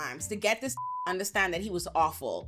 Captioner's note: beep